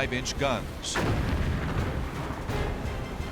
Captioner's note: explosions